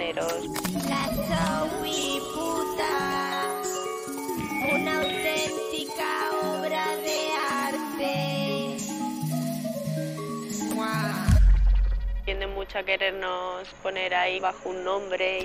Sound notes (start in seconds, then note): 1.0 metallic voice